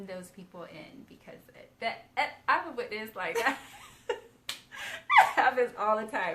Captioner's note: both laughing